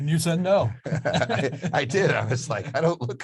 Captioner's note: both laughing